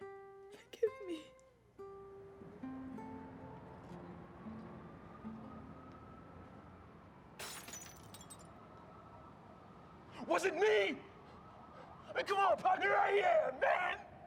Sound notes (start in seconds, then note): 7.4 tinkling of glass breaking